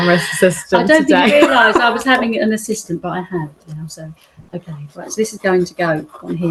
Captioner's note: laughs